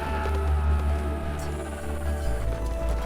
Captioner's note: all exclaiming